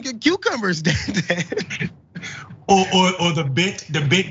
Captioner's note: laugh